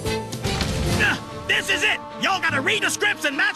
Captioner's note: grunts